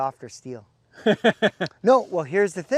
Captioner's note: laughs